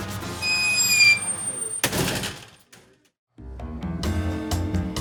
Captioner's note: door squeaks and slams; jazz music